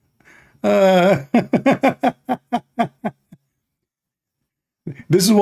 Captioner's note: Ketawa